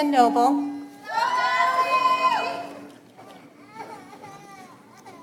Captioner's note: audience applauds